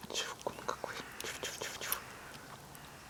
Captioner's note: chomping loudly